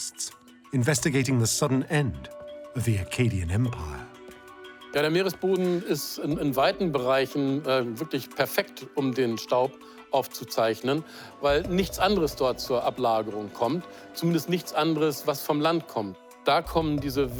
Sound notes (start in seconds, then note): 4.5 speaks in foreign language